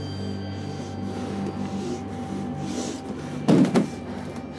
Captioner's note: breathes heavily